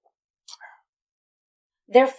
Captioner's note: smacking lips